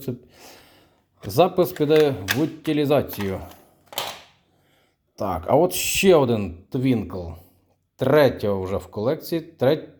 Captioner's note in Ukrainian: сопіння